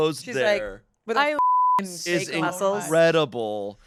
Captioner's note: beep